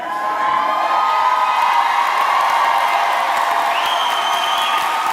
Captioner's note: audience cheering and clapping